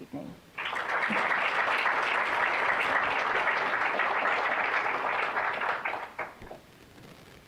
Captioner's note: applause